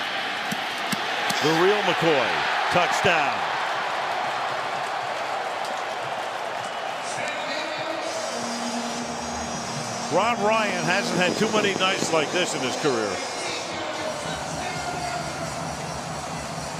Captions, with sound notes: McCoy-- the real McCoy, touchdown. [cheering] [pa announcement] Rob Ryan hasn't had too many nights like this in his career.